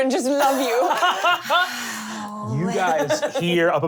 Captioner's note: laughing